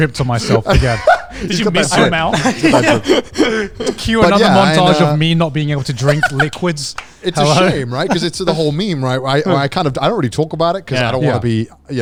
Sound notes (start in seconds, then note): 2.6 group laughing